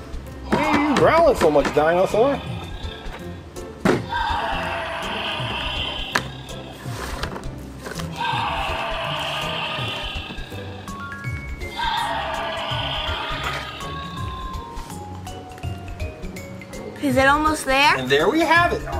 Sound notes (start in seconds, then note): 4.0 dinosaur growls; 4.2 upbeat music